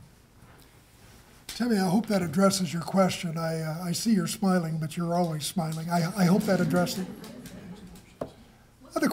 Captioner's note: laughter